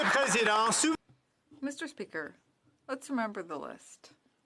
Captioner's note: applause